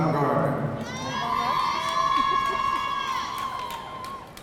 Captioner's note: audience cheering